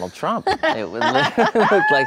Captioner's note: laughs